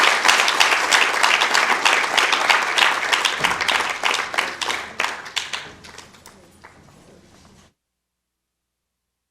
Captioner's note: applause